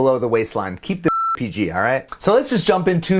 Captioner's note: beep